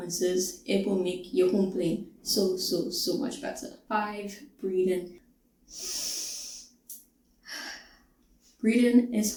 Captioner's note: deep breath in and exhale